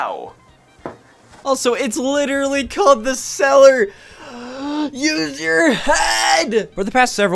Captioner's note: inhale